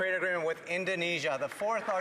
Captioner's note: some Applause